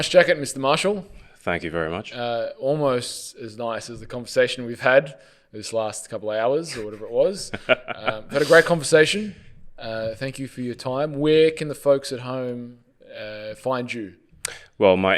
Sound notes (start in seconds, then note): 6.7 laughs